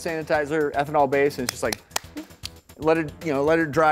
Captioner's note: clapping hands